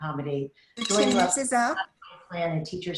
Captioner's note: alarm ringing